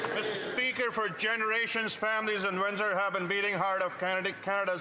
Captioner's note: some Applause